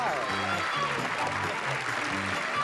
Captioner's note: applause